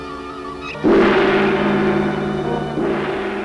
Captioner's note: gonging